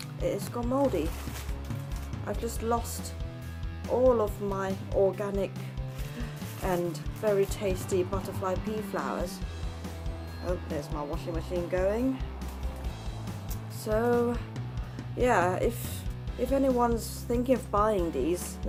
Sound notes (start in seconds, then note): 9.4 beeping sounds